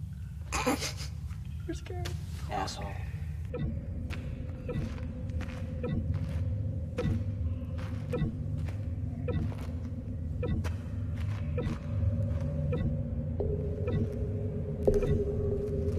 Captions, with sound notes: - [laughing] You were scared. - Asshole. [blipping]